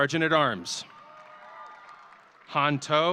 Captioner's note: audience cheering